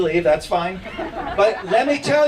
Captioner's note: chuckles